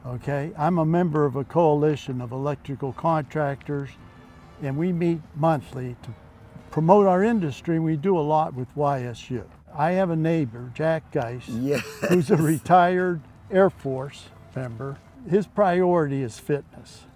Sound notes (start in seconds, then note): 11.5 laughs